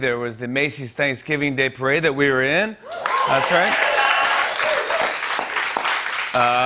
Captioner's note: cheers and applause